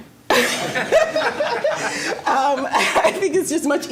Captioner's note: all laughing